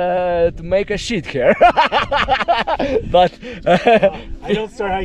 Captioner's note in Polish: śmiech